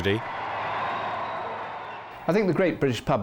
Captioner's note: crowd cheering